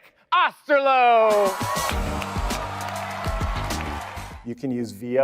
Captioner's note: audience applauding, upbeat music